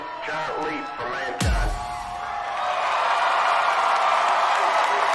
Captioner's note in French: applause